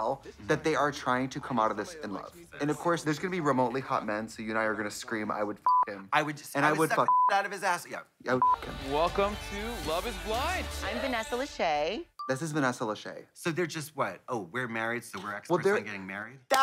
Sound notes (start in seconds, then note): 5.6 beep; 7.0 beep; 8.4 beep; 16.5 hands clap